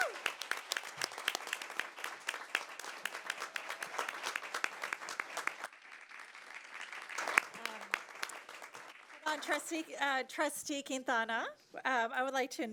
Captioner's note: applause